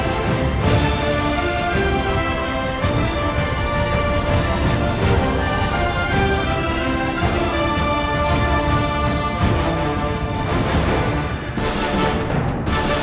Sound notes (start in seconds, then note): none